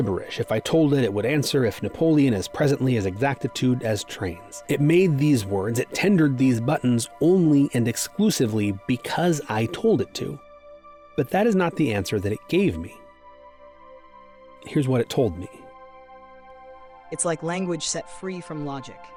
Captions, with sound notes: If I told it, it would answer, "If Napoleon", "As presently. As exactitude. As trains." It made these words, it tendered these buttons, only and exclusively because I told it to. But that is not the answer that it gave me. Here's what it told me. - [ChatGPT femme voice:] It's like language set free from logic,